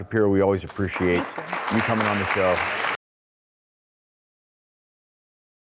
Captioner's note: audience applause